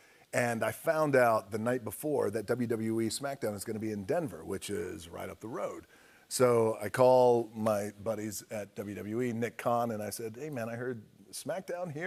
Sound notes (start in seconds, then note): none